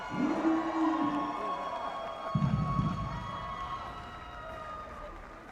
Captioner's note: audience cheering and applauding